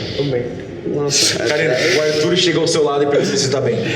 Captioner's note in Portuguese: risos